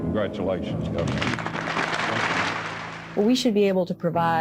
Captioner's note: applause